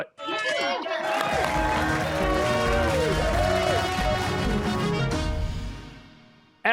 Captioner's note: cheers and applause